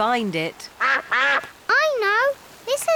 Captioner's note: quacking